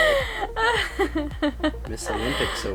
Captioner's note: laughs